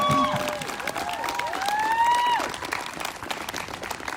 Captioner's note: whooping; applause